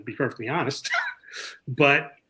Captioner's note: chuckles